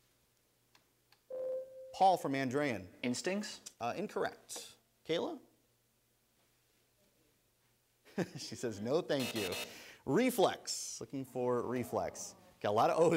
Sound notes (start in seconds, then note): 1.3 ding; 9.2 buzzer